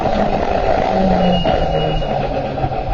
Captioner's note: squeak